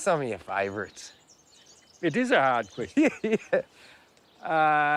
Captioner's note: laughs